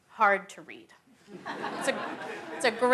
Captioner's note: laughter